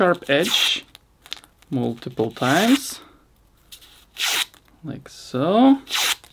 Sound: knife scraping

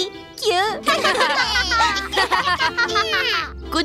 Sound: laughter

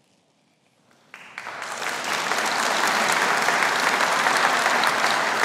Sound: audience applauding

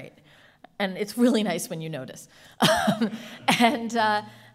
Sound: laughing

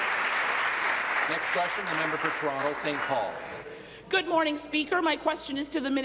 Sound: applause

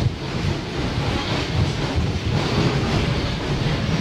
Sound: train chugging

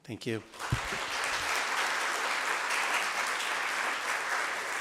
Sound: group applauds

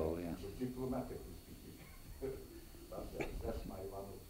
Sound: laughs

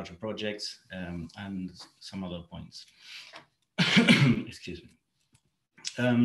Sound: coughs

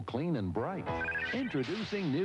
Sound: shimmery electronic chirping

